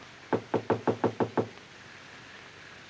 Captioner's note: Knocking